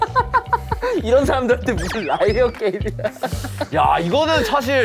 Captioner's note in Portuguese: Kekeke